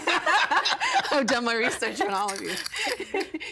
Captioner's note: all laughing